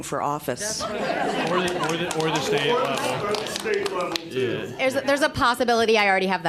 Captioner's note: laughter